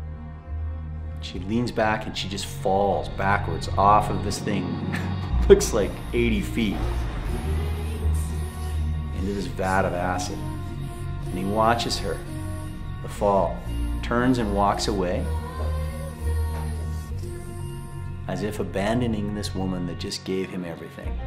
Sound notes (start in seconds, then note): 4.8 chuckles